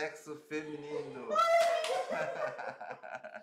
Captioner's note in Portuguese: gritos de emoção; risos